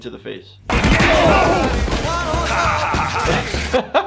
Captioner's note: hitting